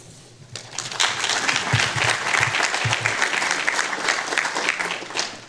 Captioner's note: everyone applauding